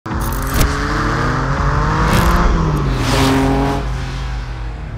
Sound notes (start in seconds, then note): 0.1 engine roars